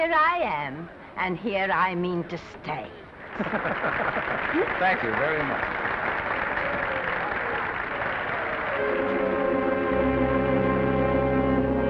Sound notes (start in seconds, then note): 3.3 men laughing; 3.3 audience applauding; 8.7 somber music